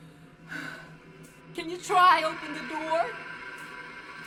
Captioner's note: sighs